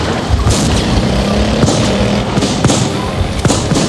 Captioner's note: gunshots